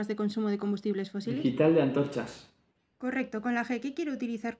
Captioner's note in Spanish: Voz en off